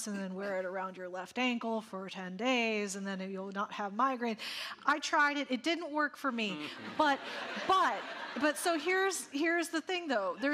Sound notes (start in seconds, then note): 6.7 audience laughing